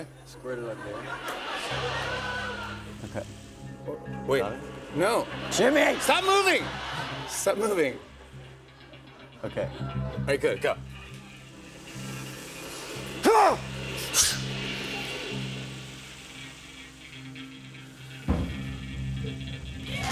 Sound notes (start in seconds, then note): 0.6 laughter; 13.2 grunts